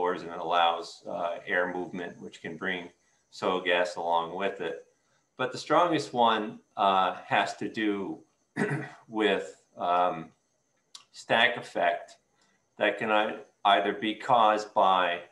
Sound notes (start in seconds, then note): 8.5 clears throat